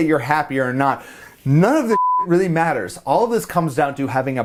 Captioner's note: beep